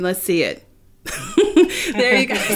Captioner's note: laughing